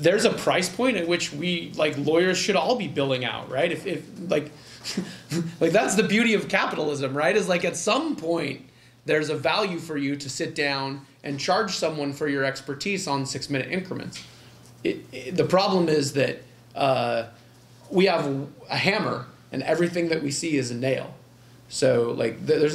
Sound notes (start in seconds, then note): 4.6 chuckle